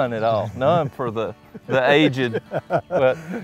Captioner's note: laughing